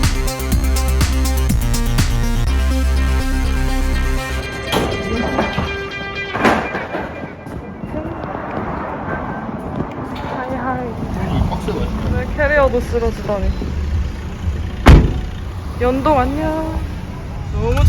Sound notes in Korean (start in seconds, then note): 6.6 캐리어 끄는 소리